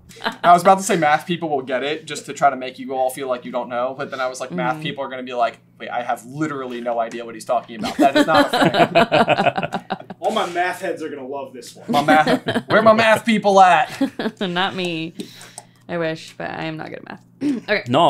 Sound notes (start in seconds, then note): 7.8 laughter